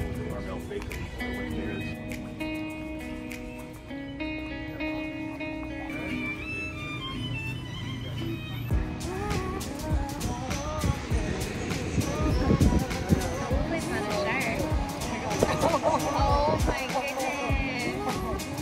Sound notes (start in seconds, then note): 5.7 upbeat violin music; 9.0 ocean waves crashing